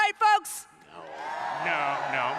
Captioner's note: crowd booing